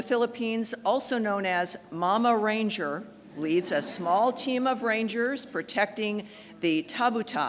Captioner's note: laughter